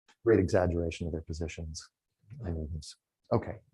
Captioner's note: none